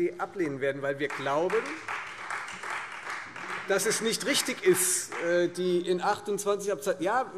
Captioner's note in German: Beifall : Schade!